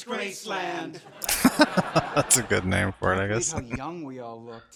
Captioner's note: laughing